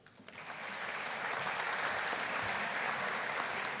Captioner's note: audience applauding